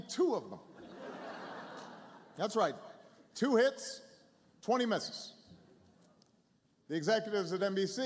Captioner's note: laughter